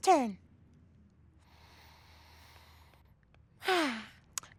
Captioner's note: inhales